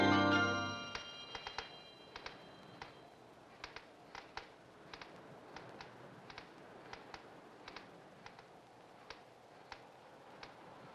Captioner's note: chair creaks